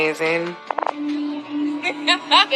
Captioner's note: lauaughghs